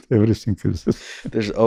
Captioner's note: chuckles